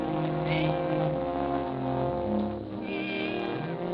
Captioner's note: cat meowing